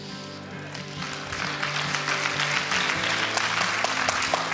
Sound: applause

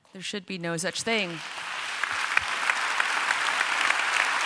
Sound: applause

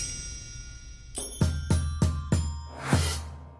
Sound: chiming

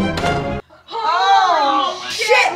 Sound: everyone groaning

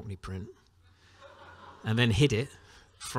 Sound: laughter

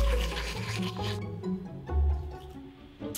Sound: toothbrush swipe

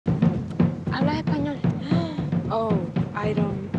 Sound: Esti speaks in Spanish

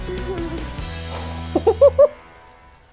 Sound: chuckles

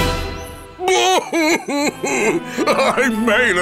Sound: crying

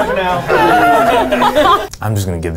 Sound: all laughing

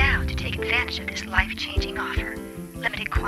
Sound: sexy female robo caller

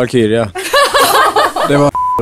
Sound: laugh

